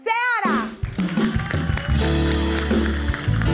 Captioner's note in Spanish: Ovación